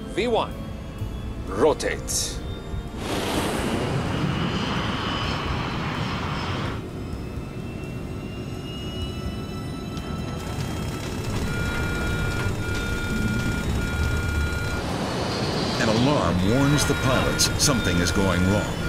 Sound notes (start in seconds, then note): 2.4 engine humming; 12.1 electronics beep; 12.1 engine humming